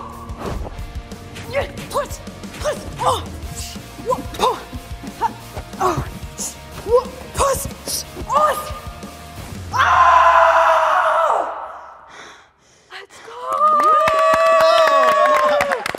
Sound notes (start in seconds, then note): 8.2 screams; 8.2 rock music ends; 13.4 everyone clapping